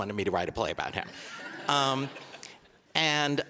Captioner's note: audience laughing